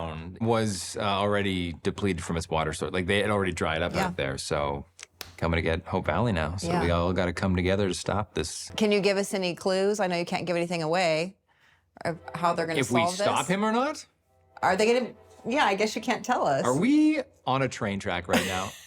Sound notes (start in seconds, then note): 16.7 train horn blaring